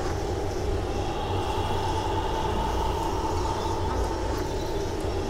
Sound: loud ghostly breathing

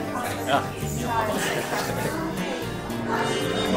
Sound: laughing

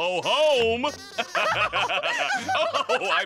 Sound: laughing

